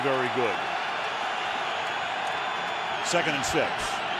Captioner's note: cheering